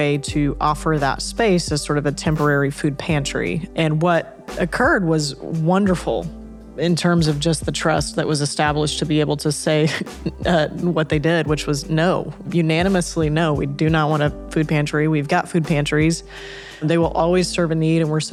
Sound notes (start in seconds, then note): 9.9 chuckles